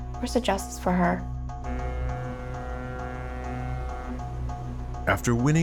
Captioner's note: horn blaring